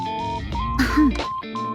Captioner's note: clears throat